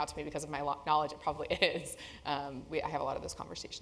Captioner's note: laugh